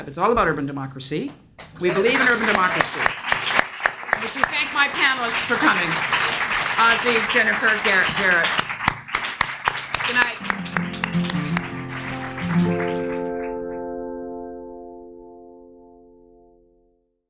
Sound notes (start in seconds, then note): 1.8 audience applauds; 10.4 gentle music